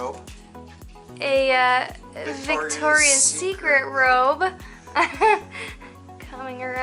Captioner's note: laughter